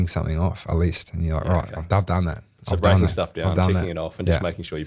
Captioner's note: laughing